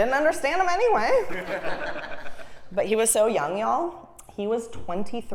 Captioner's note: laugh